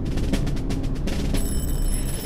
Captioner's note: door bell rings